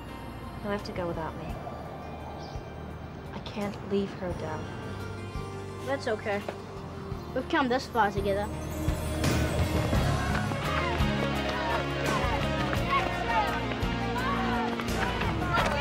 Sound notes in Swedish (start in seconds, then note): 10.8 Locos skriker